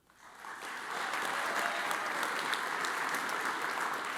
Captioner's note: audience applauds